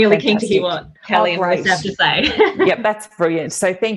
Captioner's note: laughs